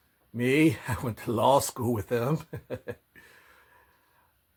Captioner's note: laughs